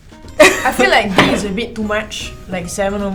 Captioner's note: laughs